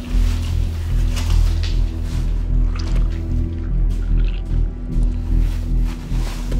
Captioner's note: tense music continues; tentacle squelching